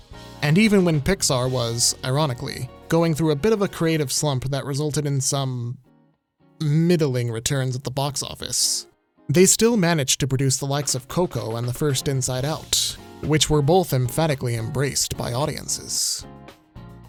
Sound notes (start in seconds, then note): none